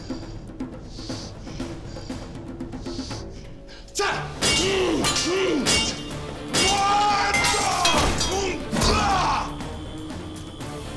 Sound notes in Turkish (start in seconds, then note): 4.3 Kılıç sesleri; 6.5 Haykırma sesi